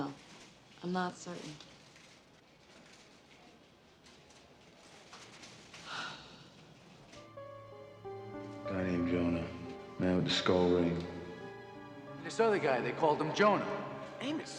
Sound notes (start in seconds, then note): 5.8 Rita sighs; 7.2 tense music